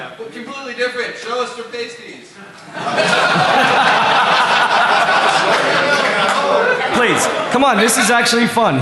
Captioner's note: laughter